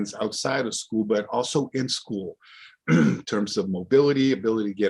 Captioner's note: clears throat